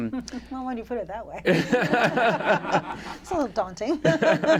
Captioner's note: laughter